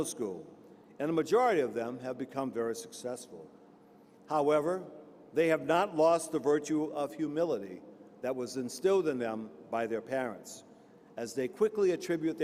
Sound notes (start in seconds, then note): none